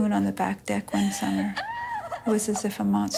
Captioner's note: distant screaming, sobbing